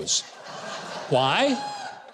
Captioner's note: audience laughs